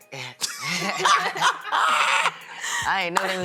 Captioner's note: laughter